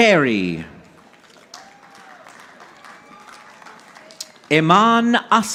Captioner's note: audience applauding